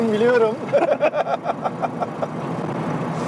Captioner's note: laughings